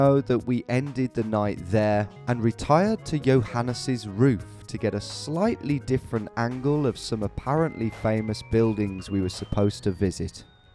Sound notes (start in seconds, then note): none